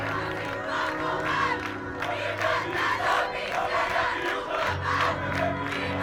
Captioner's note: military-style chanting